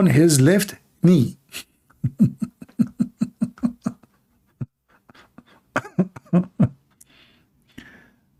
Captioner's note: Ketawa